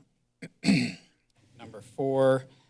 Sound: clears throat

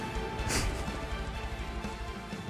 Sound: laughs

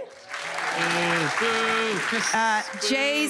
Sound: cheers and applause

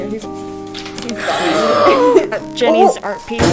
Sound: huge gasp

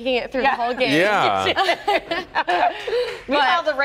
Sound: laughter

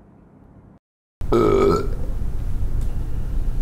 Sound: burps

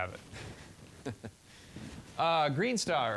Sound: chuckling

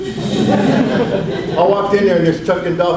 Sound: audience laughs

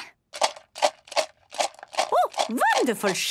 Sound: objects shaking

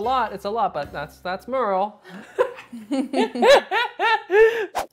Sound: both laughing

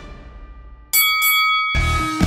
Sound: bell dings; upbeat rock music

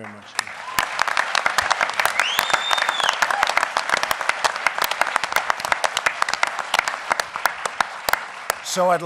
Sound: applause

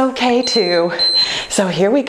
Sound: timer beeps

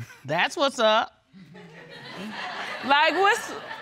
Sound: all laughing

